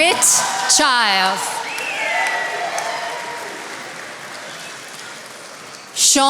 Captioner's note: attendees applauding